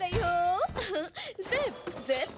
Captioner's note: Pipp chuckles